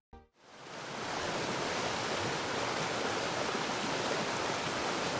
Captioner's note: waterfall splashing